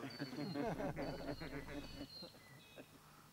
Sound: laughter

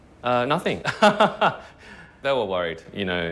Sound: laughing

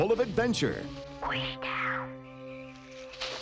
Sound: whispering

